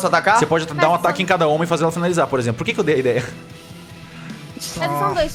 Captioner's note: laughs